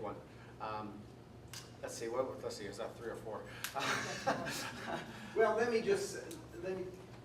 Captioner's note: laughter